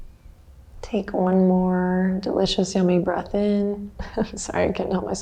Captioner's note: chuckles